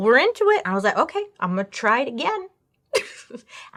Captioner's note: laughs